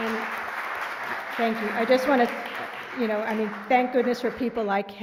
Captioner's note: applause